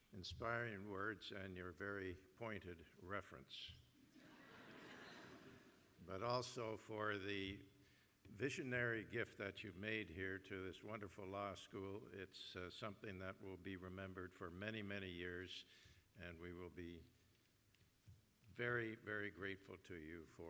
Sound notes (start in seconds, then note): 4.1 laughter